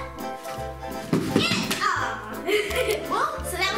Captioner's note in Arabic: يضحك